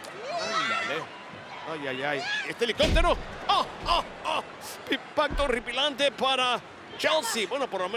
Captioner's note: laugh